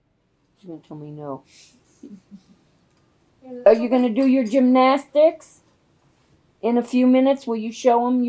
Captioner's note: laughter